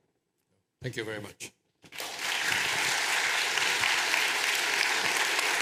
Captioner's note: applause